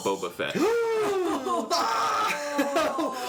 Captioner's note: sounds of gasping and fear